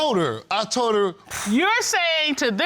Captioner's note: scoffs